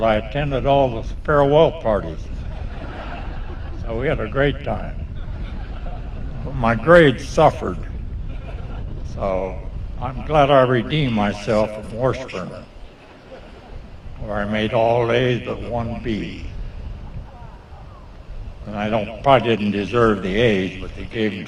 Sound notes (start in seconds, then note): 2.3 laughter